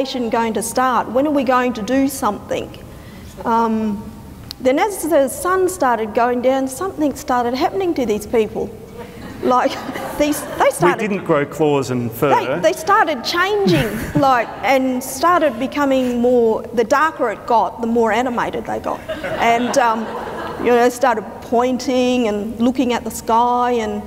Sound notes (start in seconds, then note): 8.9 audience laughter; 18.9 audience laughter